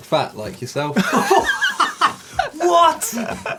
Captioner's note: all laughing